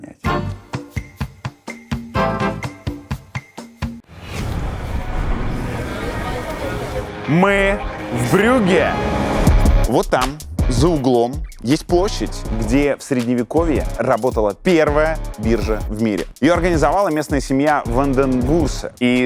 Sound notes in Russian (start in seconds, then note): 0.2 Музыкальная перебивка; 4.1 Уличный гул